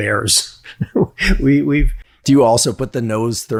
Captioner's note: chuckles